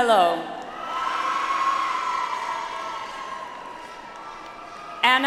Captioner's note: audience applauds